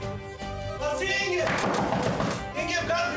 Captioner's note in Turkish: Kapı tıklıyor